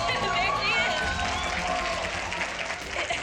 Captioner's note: cheering; Nia laughs